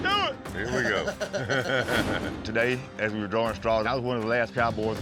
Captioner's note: chuckles